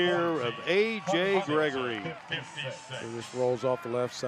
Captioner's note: applause